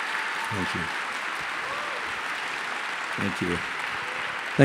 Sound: applause

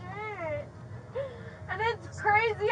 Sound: crying

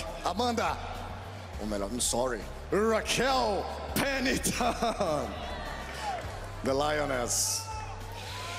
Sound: speaking foreign language

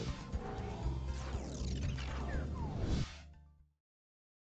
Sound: whirring machinery

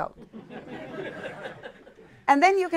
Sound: laughter

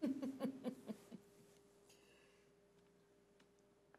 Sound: laughs

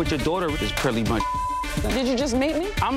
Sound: beep

